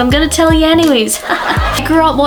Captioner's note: comedic laughter to mask my dad jokes